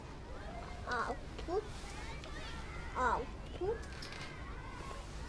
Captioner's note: baby making noises